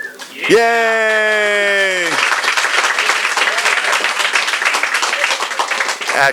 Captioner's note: applause